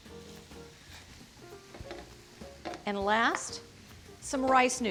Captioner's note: vegetables sizzling